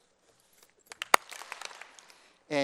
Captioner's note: applause